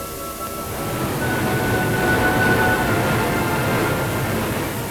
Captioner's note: static